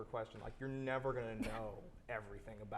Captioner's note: chuckles